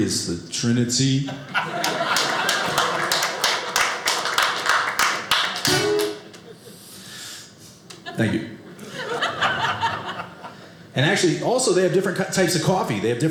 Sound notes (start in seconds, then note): 1.6 audience applauding